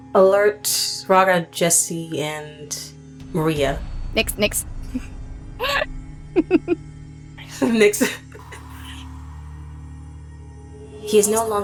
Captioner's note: giggles